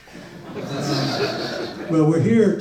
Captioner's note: audience laughs